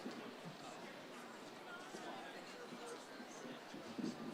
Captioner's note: crowd chattering